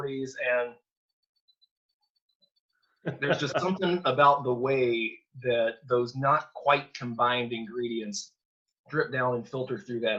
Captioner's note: laugh